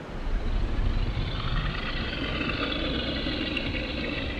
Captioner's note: wind humming; distant growling